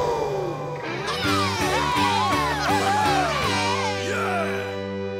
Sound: cheering

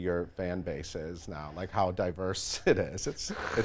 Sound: laughs

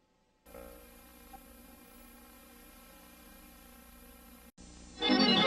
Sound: quiet VHS static; eerie synthesizer music plays

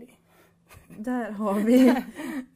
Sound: Magda laughs

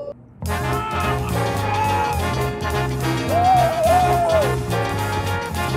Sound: hollering

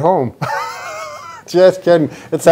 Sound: laughs

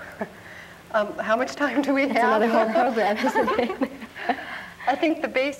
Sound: laughs

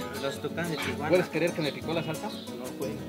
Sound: speaking Spanish

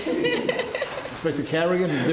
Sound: laughing

